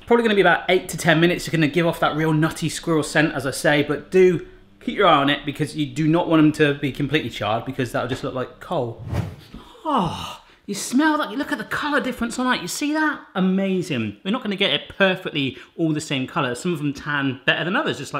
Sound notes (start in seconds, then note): none